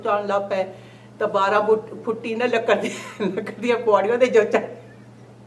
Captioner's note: laughs